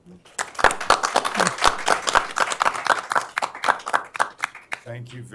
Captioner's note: applause